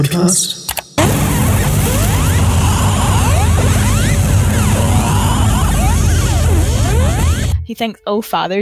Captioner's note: click; sci-fi travel sounds